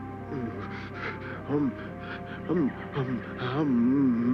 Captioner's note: stuttering